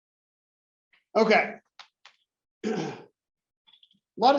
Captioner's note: cough